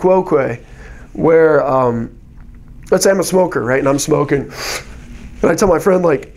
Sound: inhalation

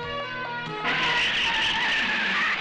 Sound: tires Screeching

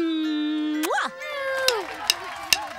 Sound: kissing

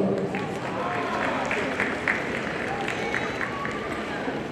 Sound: audience applauding

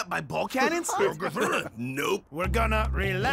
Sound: others laughing

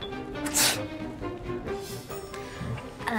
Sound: sneezes

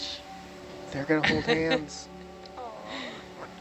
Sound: person chuckles

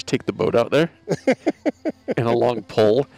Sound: laughs

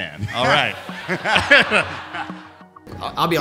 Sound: laughter

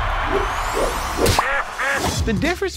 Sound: crowd cheers; air whooshes; duck quacks

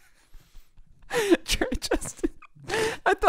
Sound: laughs

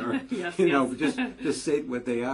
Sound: laugh

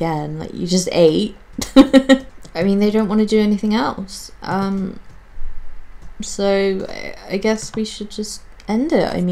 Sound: laughs

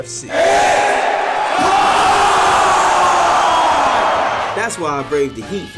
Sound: crowd

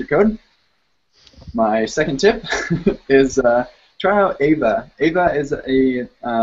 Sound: laughs

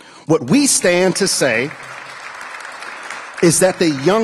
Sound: applause

